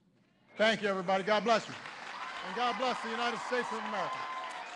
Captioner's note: applause